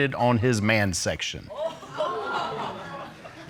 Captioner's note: audience exclaims